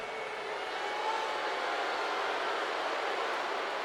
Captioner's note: crowd boos